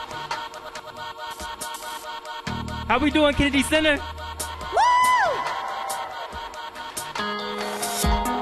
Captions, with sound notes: - How we doin', Kennedy Center? (cheering)